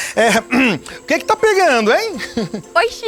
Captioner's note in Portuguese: Chico pigarreia